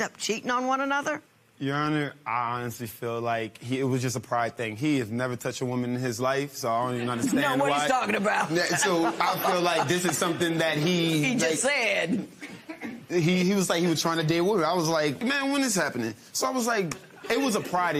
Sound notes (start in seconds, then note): 8.6 laughter